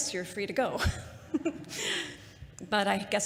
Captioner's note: laughter